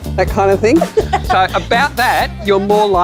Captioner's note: laughing